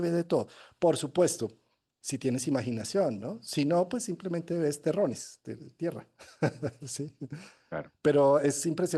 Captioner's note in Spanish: risas